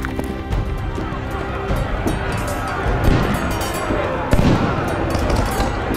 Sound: shouting and clanging of steel

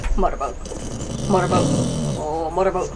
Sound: growling; growling continues

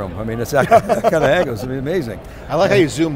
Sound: laughing

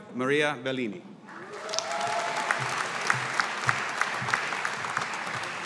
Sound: audience applauding

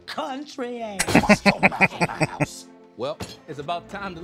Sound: laughing

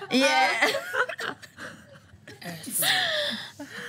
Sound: laughter

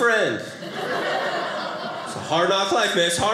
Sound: audience laughing

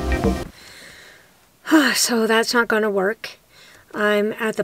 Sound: sigh

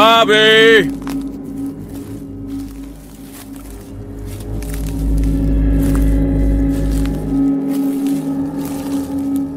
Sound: walking through leaves

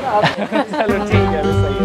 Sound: chuckles

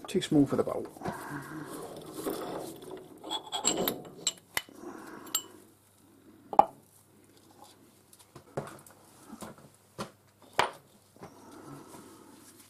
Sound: mechanical noise

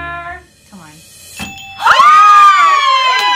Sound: bell dings; ladies cheer

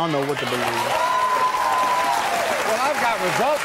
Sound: audience cheers

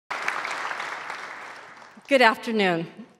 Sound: audience applauds

